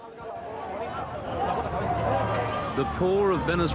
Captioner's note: people shouting